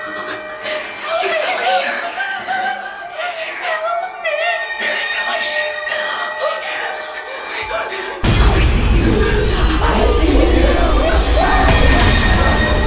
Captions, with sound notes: - There's someone here... - Help me. - There's someone here... (both gasping) I see you. I see you! (frightened screaming)